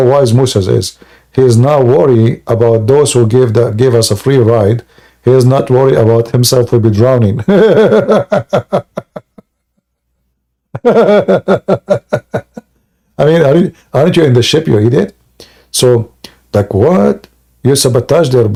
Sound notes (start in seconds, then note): 7.7 Ketawa